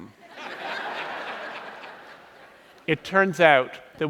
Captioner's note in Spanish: Risas